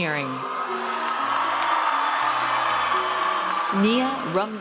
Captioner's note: audience cheers